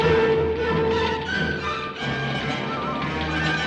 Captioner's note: fire crackling